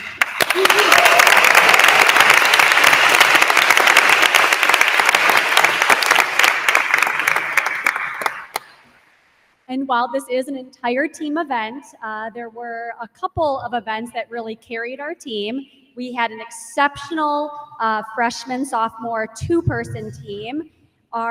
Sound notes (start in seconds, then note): 0.0 attendees applauding; 0.4 attendee cheers